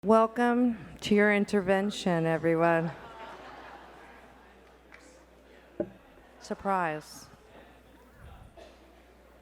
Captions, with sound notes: - Welcome to your intervention, everyone. (audience laughs) Surprise.